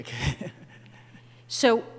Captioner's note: chuckles